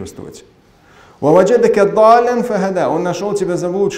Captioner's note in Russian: Говорит на арабском